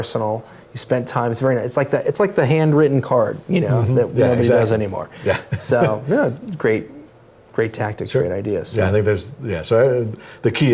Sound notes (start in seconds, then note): 5.2 laugh